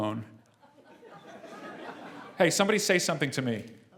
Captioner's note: laugh